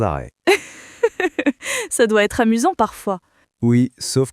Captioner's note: laughs